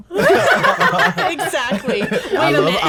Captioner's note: group laughs